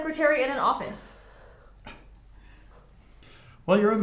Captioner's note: Dr. Jewell scoffs; Livia sighs